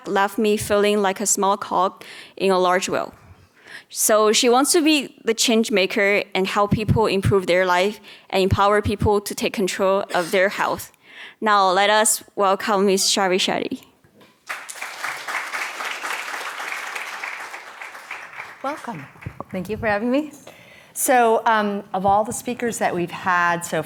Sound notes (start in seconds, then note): 14.4 audience applauding